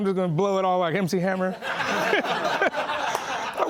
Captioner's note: laughing